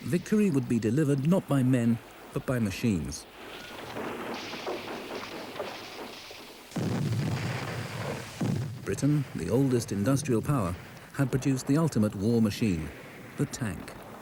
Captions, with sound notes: Victory would be delivered not by men but by machines. (shrapnel clatters) (shell booms) Britain, the oldest industrial power, had produced the ultimate war machine, the tank.